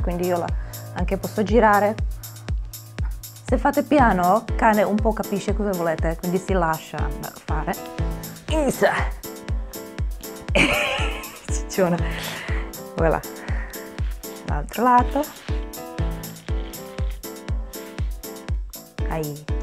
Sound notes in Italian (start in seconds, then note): 10.5 risate